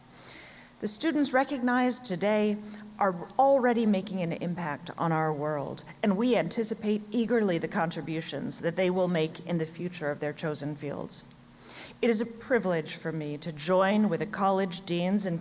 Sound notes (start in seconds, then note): none